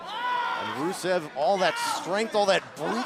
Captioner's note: crowd chatter